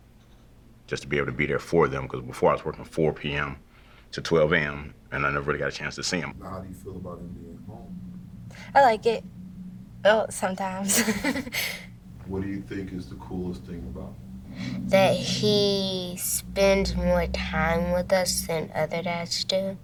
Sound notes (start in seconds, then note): 10.8 wife Giggling